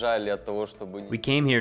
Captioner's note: speaking in foreign language